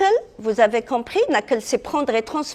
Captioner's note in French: none